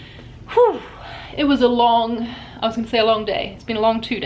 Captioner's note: exclaims